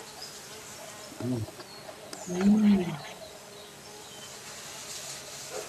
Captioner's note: bees humming